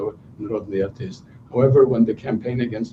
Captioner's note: non-english speech